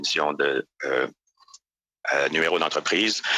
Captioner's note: speaking French